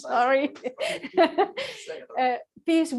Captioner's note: laughter